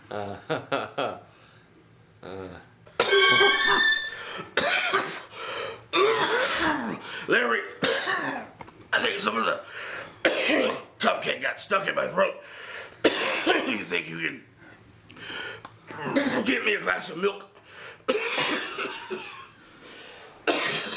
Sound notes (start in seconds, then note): 0.0 Larry chuckling; 3.3 Sherman coughing; 18.1 Sherman coughing